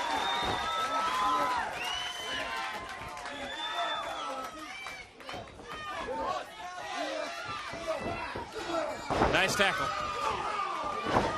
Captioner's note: crowd chatter